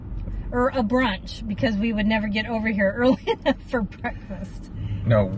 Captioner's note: laughing